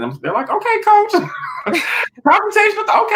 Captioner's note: laughing